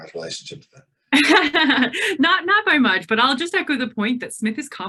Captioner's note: laughs